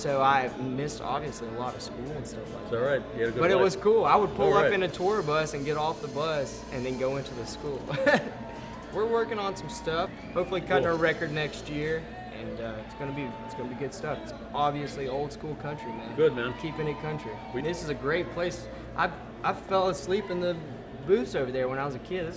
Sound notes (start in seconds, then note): 7.8 laughs; 12.1 audience cheering